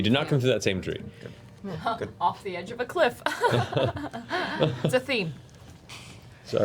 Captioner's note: laughs nervously